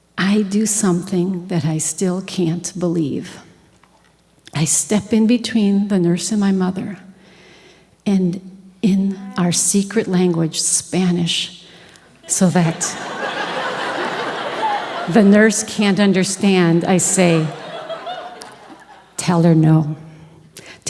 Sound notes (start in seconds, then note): 12.0 audience Laughing